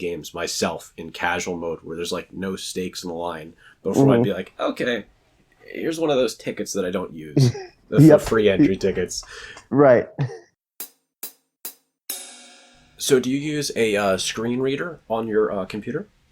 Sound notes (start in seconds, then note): 7.4 laughs; 10.2 transition sound